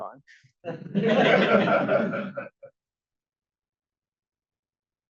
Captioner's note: audience laughs